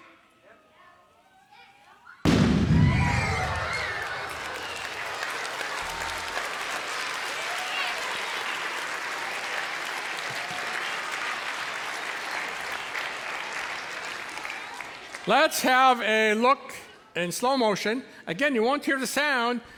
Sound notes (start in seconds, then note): 2.2 audience howls; 2.2 loud boom; 5.2 cheers and applause